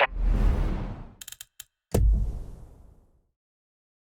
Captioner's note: gunfire